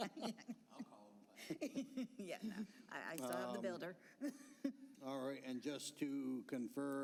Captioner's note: laughter